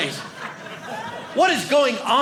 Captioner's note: audience laughing